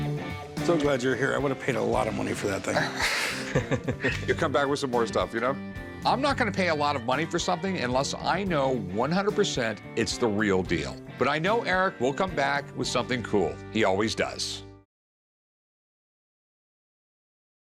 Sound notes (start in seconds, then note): 2.7 laughter